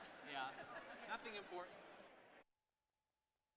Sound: crowd chattering; laughs; no sound playing

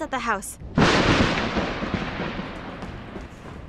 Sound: thunder cracks

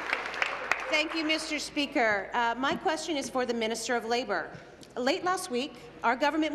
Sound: applause

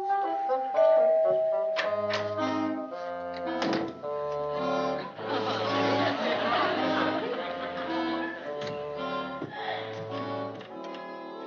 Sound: doorbell

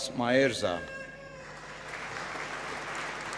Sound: applause

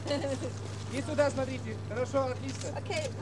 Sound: laughs; non-english speech

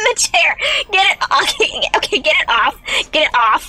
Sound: laughing

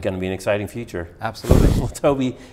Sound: laughs

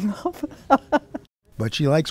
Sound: laughter

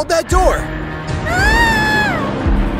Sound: screams

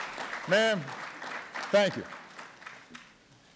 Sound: applause

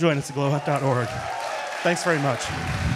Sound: audience cheering

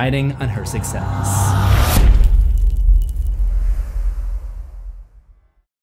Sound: impact

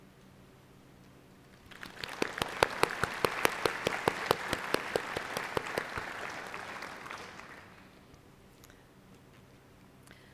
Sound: applause

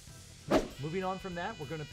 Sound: swoosh

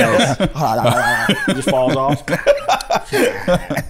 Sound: mimicking jaw clattering

